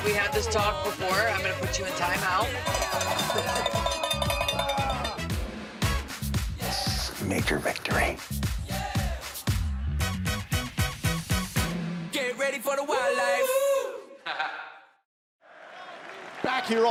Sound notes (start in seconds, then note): 2.4 bell ringing